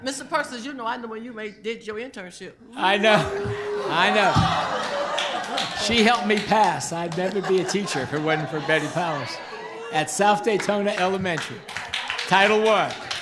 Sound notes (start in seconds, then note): 4.9 group cheering